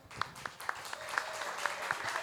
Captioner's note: audience applauds